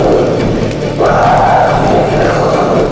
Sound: screams

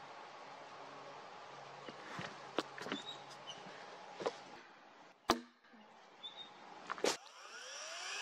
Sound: footsteps, axe knocking wood; chainsaw running

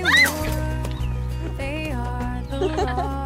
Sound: screams; Petra laughs

